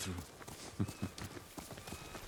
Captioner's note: laughs